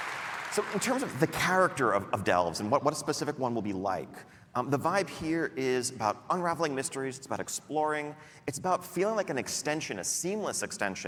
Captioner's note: applause